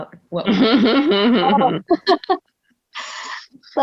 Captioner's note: laughing